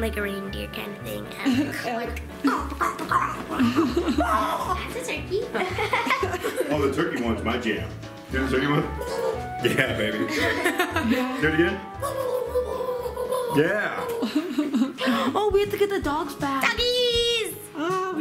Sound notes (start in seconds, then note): 2.6 grunting; 5.3 laughing